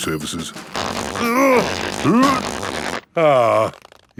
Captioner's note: grunting